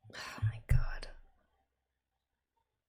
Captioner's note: whispers